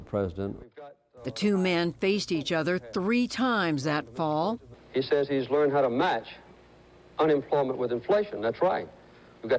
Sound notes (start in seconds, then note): 1.9 voice-over